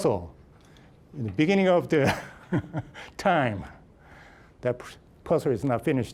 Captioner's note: laughing